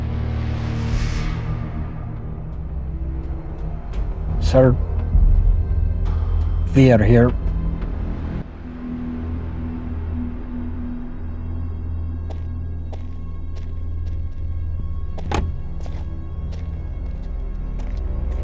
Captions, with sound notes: (slow music continues) - Sir? We are here. (footsteps crunching) (car door slams)